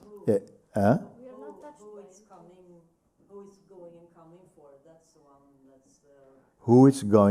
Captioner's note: voices in group